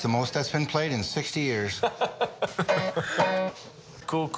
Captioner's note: laughter